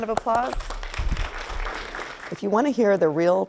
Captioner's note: clapping